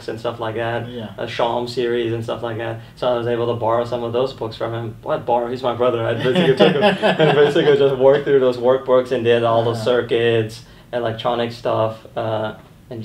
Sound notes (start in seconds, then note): 6.2 laughing